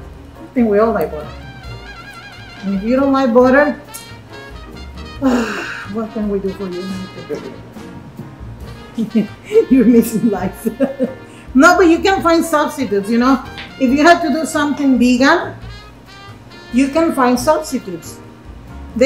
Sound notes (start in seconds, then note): 5.1 sighs; 8.9 laughs